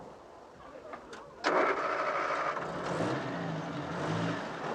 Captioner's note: engine starts